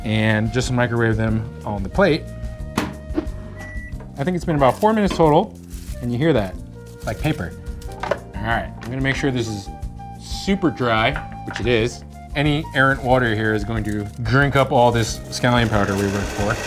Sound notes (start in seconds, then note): 2.8 microwave door slamming; 3.2 timer beeping; 4.6 leaves rustling